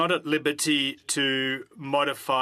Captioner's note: speaking French